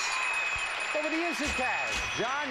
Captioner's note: audience applauding; bell dings